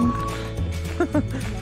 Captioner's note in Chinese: 傻笑聲